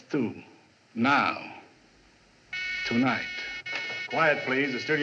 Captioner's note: buzzing